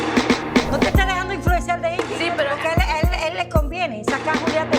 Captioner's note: speaking Spanish